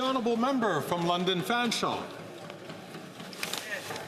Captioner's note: some Applause